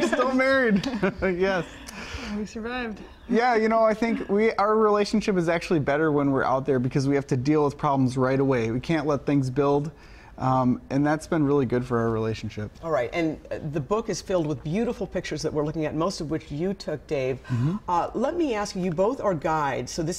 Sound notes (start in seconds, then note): 4.0 laughter